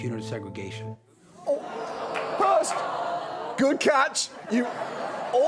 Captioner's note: crowd groans